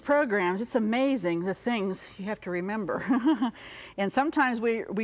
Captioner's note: chuckles